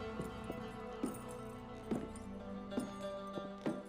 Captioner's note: bootsteps, spurs jingling